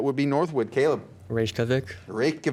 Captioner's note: buzzer beeps